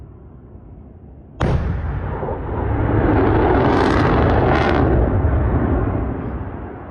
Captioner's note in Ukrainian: звук запуску ракети